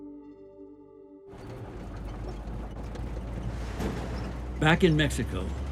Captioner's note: vehicle rattling